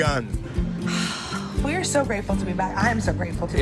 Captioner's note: sighs